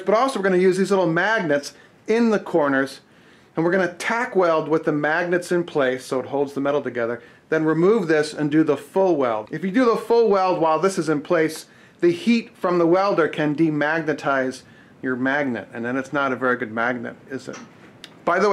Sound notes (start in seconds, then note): none